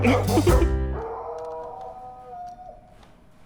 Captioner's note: dog howling